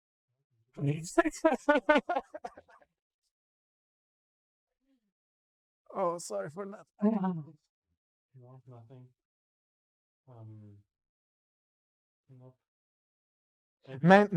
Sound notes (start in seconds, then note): 1.1 laughing